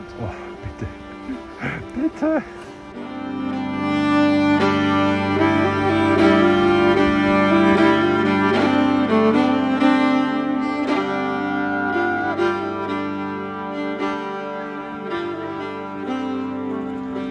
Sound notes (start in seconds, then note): 10.9 is howling